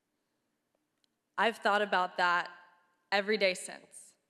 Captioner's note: none